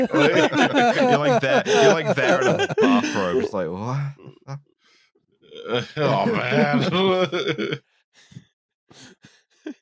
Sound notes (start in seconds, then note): 0.0 laughter; 5.6 laughs